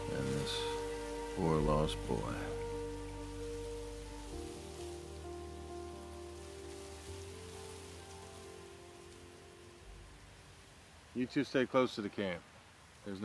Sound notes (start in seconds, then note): 3.8 wind gushing; 5.8 gentle music